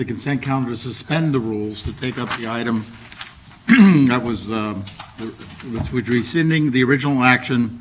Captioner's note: ahem